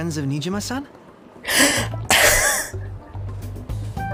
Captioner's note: laughs